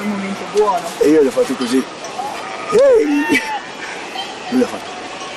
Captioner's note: claps his hands